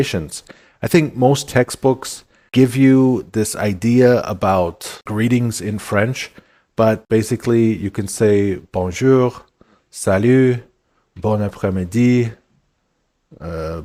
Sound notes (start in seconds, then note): 10.0 french words